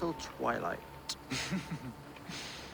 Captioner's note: laughs